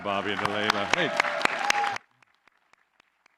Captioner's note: applause